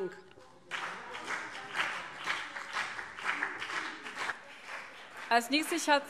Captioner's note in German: Beifall BÜNDNIS 90/DIE GRÜNEN und vereinzelt CDU